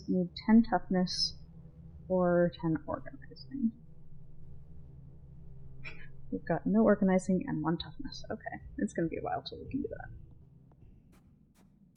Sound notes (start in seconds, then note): 5.9 laughing